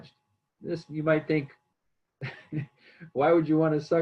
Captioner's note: laughs